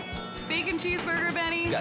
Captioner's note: bell dings